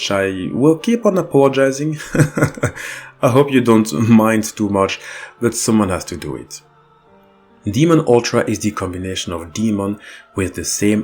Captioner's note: laughs